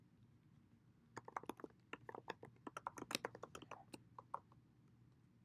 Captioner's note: keyboard clacking